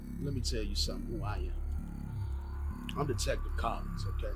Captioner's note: sighs